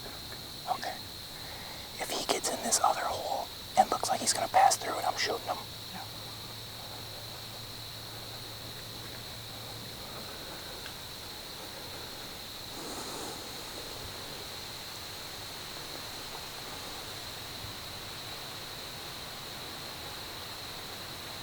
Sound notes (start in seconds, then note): 7.6 wind/insects